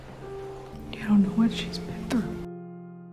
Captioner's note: whispering